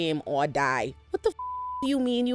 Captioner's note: beep